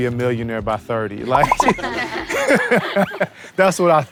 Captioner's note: laughter